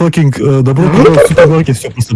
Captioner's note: dying noises